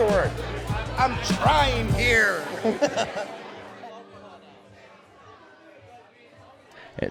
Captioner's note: laughs